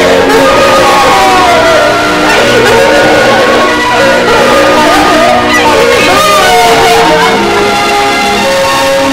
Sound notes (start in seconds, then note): 2.5 crying; 8.2 sad music playing